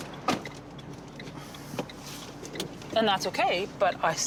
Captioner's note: blinkers ticking